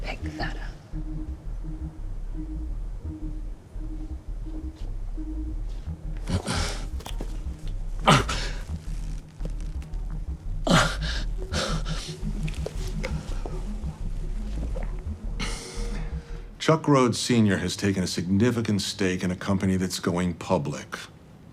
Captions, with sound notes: - Pick that up. (suspenseful music continues) (Chuck groaning) (suspenseful music continues) - Chuck Rhoades, Sr has taken a significant stake in a company that's going public.